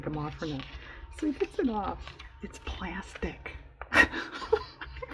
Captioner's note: laughs